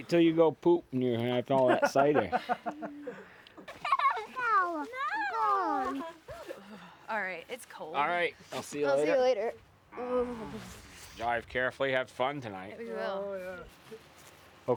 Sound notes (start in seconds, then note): 4.1 kids playing